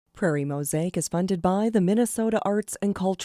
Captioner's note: voiceover